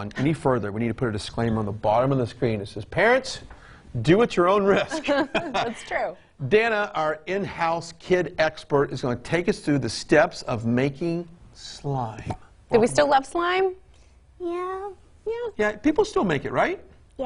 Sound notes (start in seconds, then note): 4.8 laughs